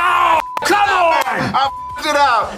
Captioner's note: roars